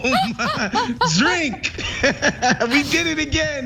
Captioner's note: laugh